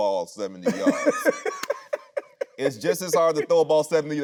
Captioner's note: Anthony laughing